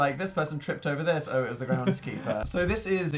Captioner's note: laughs